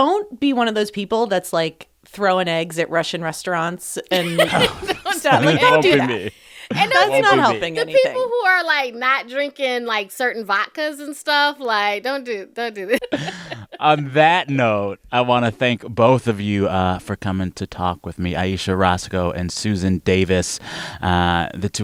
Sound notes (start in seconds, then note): 4.1 laughter; 12.9 laughter